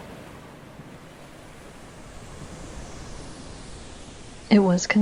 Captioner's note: whooshing, underlying